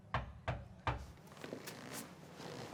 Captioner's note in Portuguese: batida na porta